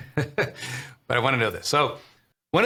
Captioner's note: chuckles